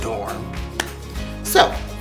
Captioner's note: claps